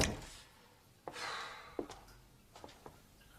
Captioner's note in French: Il soupire